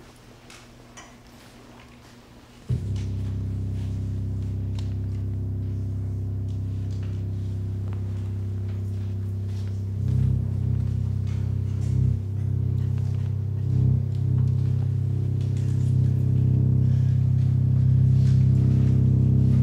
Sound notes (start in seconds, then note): 4.0 electronics humming